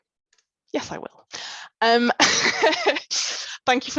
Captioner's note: laughs